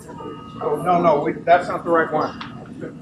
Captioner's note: group murmurs